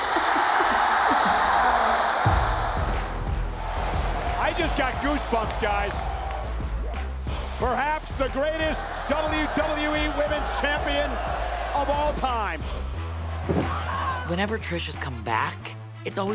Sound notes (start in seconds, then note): 1.5 people cheering